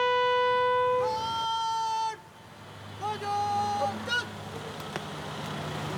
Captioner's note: shouting in a foreign language